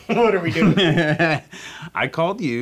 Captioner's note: Dave laughing